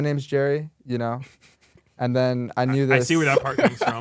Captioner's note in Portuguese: risos